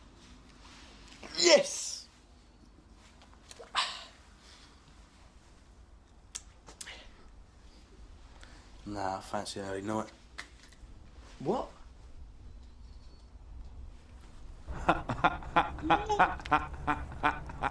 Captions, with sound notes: Yes! Nah, fancy an early night. What? - (Laughing) - (Vicar vomiting)